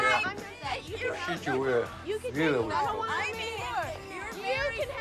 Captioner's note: speaks foreign language